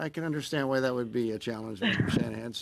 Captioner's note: laughter